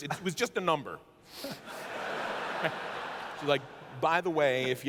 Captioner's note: laughter